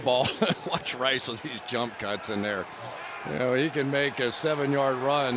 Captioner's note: laughs